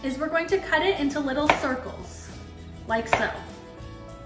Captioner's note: knife cutting